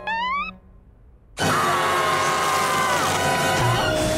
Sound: screaming

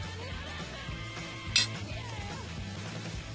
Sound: fork clinks

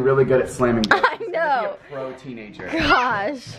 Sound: laughs

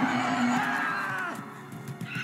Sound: screaming in terror

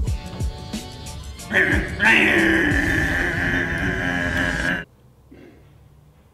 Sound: grunting mechanical sounds

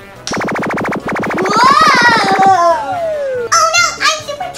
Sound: loud cry

